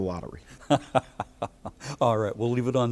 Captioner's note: laughs